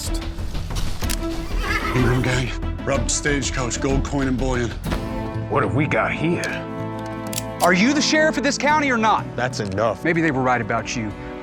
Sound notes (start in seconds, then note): 1.0 guns cocking; 6.9 cocks gun